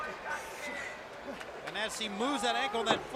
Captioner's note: crowd chatter